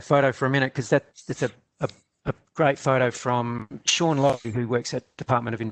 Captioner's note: audio dips